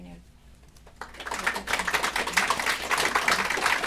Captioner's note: applause